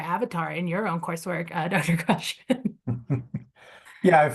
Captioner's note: chuckles